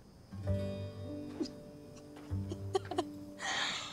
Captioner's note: Clive sobbing